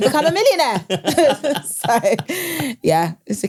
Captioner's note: laugh